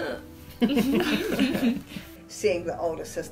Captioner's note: all laugh fondly